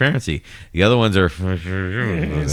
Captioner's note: uh